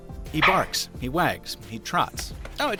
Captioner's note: yapping